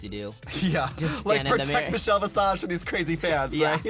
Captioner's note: laughs